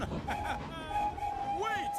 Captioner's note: toot-Toot-Toot!